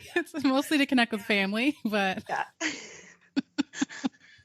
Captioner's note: both giggling